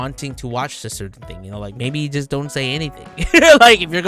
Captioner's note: laughs